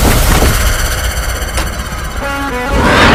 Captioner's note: door opens